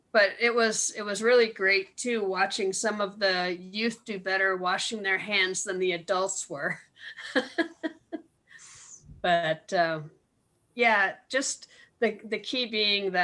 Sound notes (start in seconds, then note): 7.1 laughs